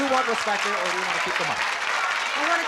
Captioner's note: cheering